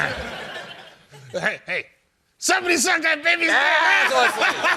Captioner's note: laughter; yelling; laughter